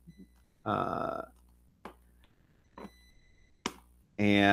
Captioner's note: mouse clicking